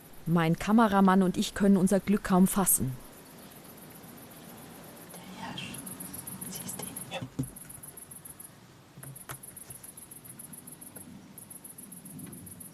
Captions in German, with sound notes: Mein Kameramann und ich können unser Glück kaum fassen. (flüstert) Der Hirsch. Siehst du ihn? - Ja.